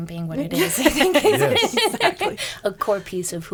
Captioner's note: laughing